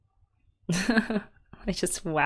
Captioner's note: laughs